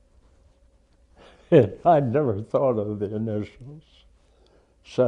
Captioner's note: laughs